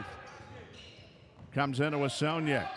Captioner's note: shoes squeaking; yelling